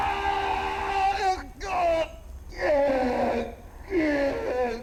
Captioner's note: screaming